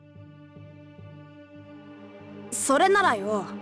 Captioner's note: silence